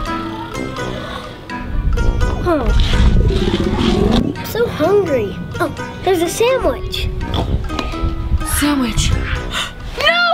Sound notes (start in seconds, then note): 2.4 belly growling